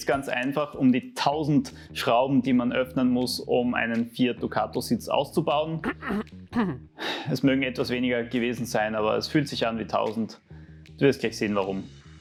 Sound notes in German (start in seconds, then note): 5.8 räuspern